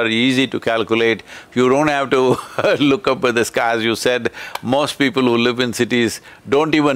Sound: laughs

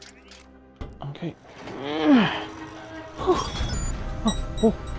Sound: noises of physical strain

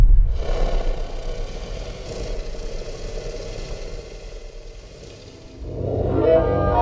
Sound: BIG stompy; growling

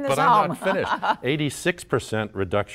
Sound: laughter

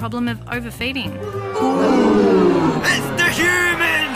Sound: jeering

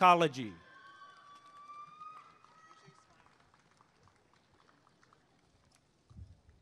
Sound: applause and cheering

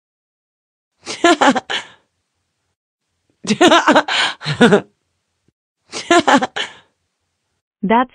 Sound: evil cat laughing

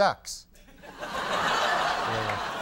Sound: audience laughing

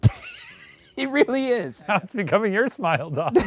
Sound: laughing; laughing

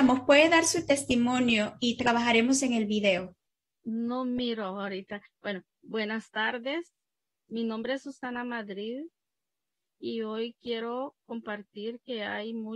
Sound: speaking in spanish

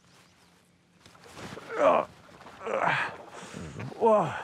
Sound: grunts

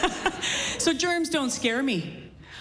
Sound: laughs

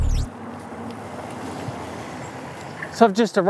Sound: motor whirring; electronic computing beeps

